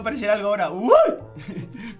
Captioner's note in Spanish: Sorprendido